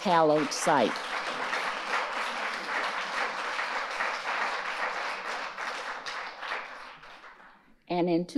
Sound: audience applauding

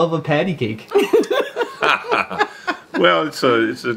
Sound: woman and man both laughing

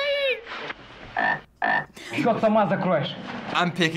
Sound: man speaking Russian; frog croaking

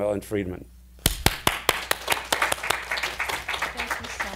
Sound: applauding

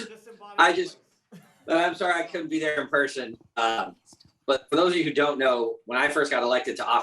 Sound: applause

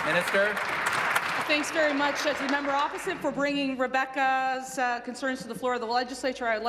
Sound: applause

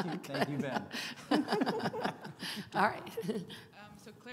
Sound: all laughing

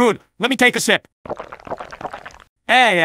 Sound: drinking

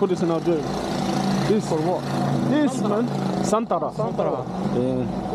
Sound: motorcycle

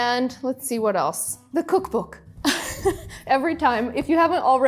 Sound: laughs

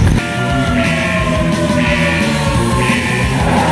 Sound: alarm sounds continue playing

